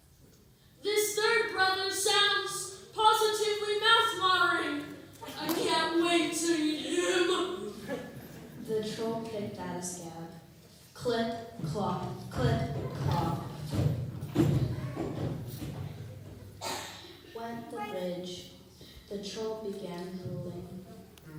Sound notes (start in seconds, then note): 7.6 laughter